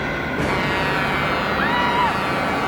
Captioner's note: horn blaring; Cathy screaming